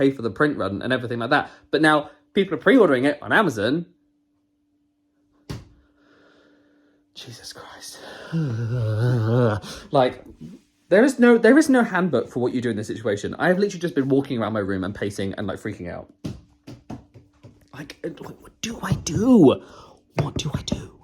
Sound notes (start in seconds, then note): 8.0 sighs